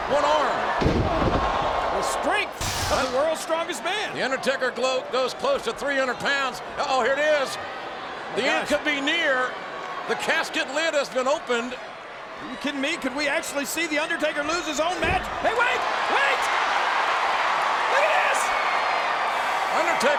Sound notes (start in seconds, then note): 16.4 audience cheers